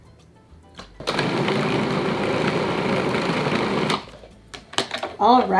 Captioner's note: food processor whirring